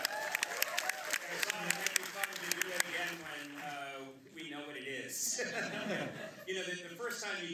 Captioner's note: applause; laughs